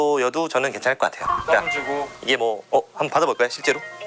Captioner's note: the phone rings again